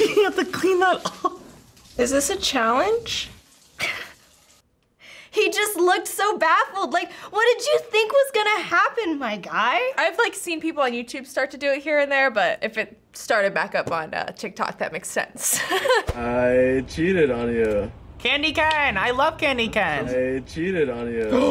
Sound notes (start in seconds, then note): 3.7 laughs; 15.5 chuckles; 21.2 gasps